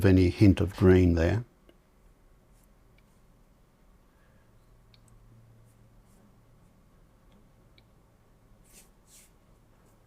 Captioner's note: silence